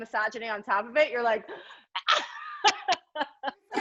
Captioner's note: laughs